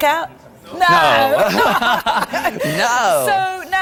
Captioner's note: laughs